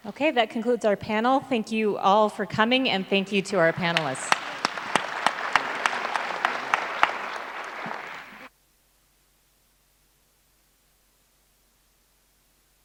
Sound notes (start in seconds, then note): 3.0 applause